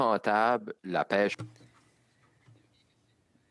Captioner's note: speaking French